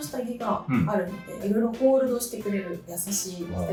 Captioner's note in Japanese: 咳払い